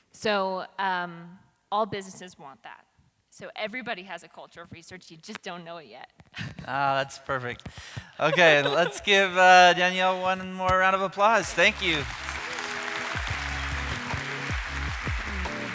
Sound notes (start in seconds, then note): 8.2 laughs; 11.3 audience applauding